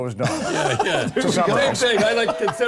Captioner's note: laughing